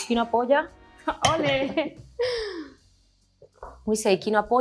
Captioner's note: producer 2 speaks in Spanish; glasses clink